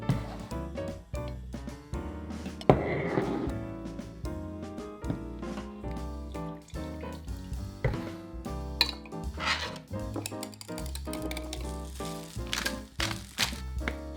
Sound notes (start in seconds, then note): 9.6 whisking; 12.4 pepper cracking